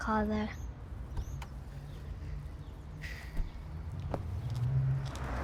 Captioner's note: door clicking